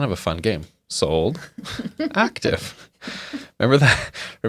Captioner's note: laughs